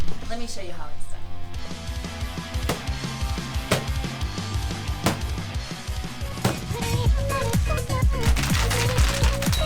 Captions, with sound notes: - Let me show you how it's done. (baseball bat thumping) (upbeat music)